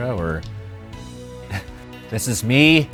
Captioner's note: laughs